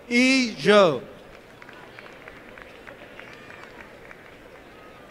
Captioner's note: applause